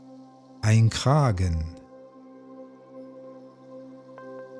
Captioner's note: german